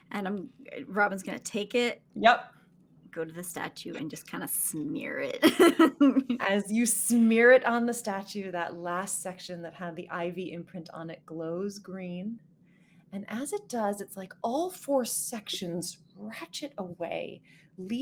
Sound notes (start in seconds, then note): 5.5 laughing